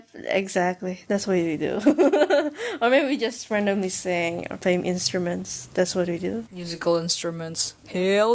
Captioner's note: hehehehe